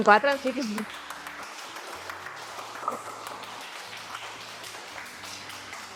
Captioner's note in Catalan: Aplaudiment